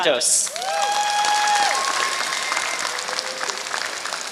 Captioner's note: applause